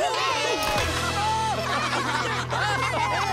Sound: all laughing

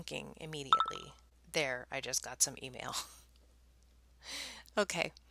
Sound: email notification sound plays on phone

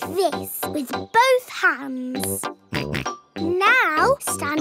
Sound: snorts

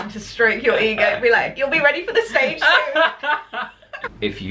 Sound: laughter

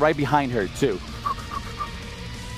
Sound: gasping

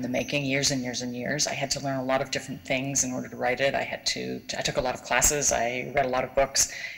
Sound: none

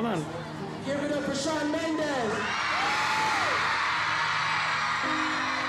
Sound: audience cheering

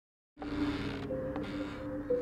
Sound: creaking

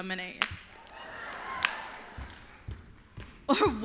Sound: cheers

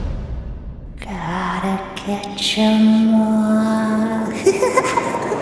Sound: evil laughter

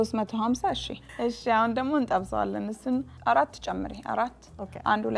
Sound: speaking Amharic

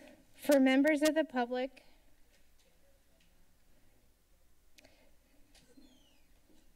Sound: pause

